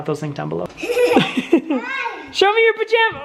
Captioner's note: laughing